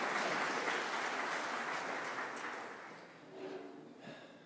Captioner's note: applause